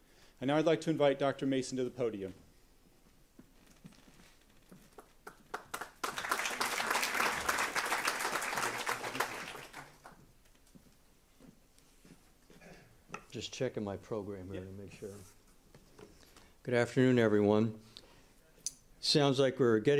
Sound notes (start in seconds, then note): 4.9 applause